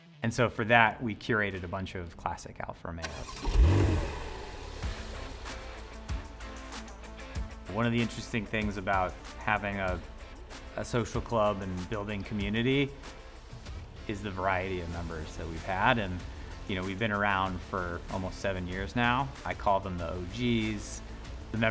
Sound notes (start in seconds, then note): 3.0 car engine revving; 4.8 upbeat music